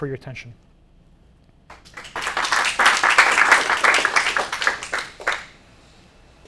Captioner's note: applause